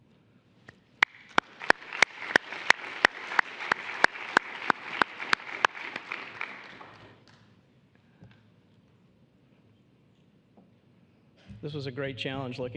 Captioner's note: applause